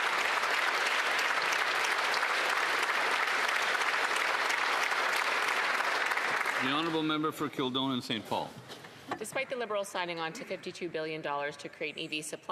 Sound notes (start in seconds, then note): 0.0 some Applause; 2.7 applause